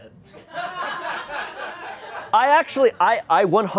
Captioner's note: audience laughing